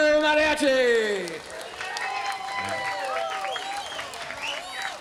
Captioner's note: audience applauds